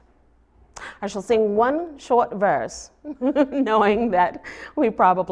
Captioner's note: laughs